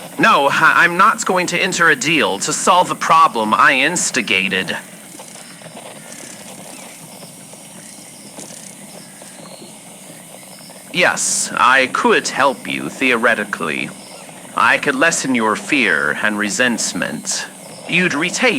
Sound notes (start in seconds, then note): 5.1 dragonflies zipping by fx